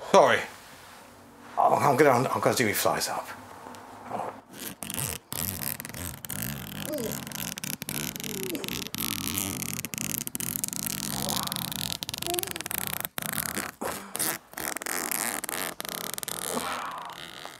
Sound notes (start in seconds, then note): 4.4 incredibly long zipper is pulled up